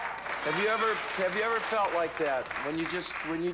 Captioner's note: applause